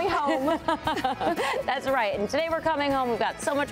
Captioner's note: laughter